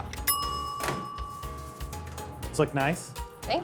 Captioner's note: timer dings